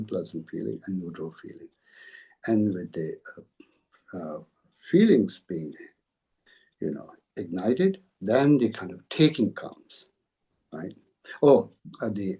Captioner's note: tibetan